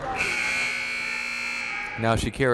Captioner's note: buzzer blaring